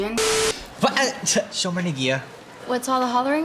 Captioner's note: speaks in Hebrew